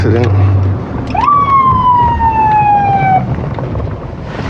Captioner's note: sirirenens blblararing